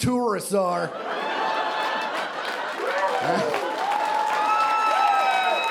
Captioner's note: audience cheering and applauding